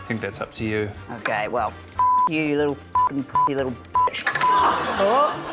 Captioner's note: laughter